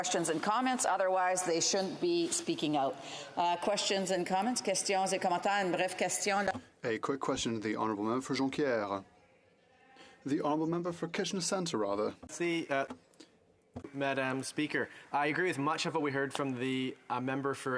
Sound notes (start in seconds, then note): 8.3 speaking French